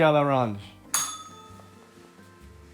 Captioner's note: bell rings